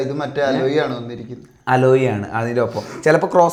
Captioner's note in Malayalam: ചീറ്റുന്നു